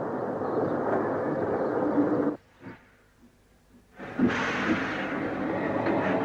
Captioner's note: train passes